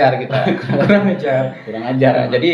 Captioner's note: laughs